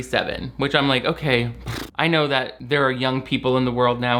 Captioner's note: blows raspberries